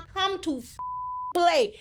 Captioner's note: beep